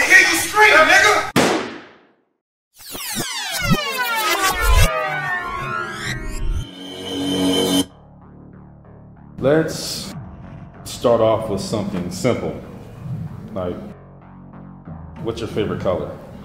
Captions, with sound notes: - To hear you scream, nigga. (gun shot) (rewind sounds) - Let's start off with something simple. Like what's your favorite color?